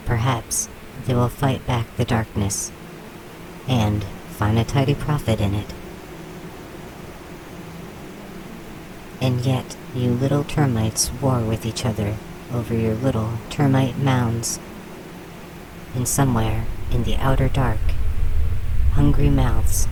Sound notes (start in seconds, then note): 0.1 the hive hums; 12.5 the humming hive quiets; 16.0 low, expansive rumbling of a Black Hole